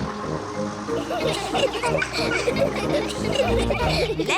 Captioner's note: all giggle